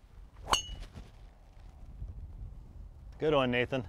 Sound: ping!

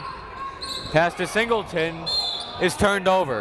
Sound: whistle

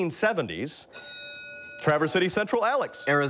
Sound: bell rings

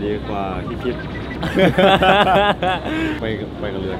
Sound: both laughing

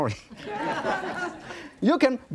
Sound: audience laughing

